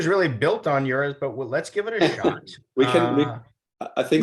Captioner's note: laughs